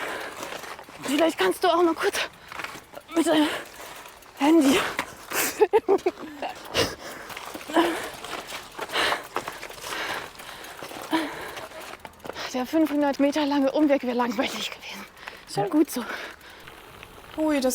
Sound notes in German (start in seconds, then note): 9.7 lacht